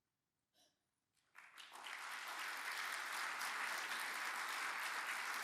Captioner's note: audience applauds